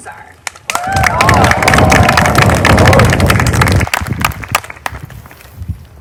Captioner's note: applause